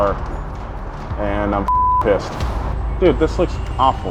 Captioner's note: beep